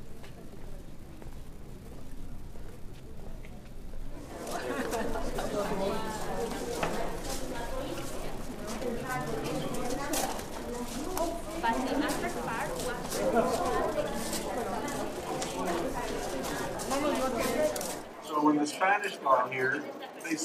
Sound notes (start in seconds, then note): 4.7 visitors chattering indistinctly